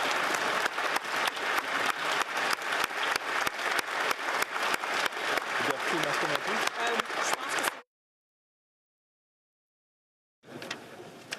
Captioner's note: applause